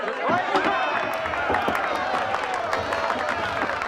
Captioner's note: applause